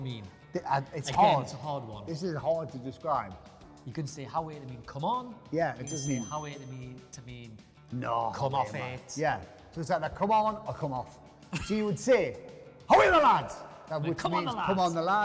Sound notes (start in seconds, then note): 11.6 laughing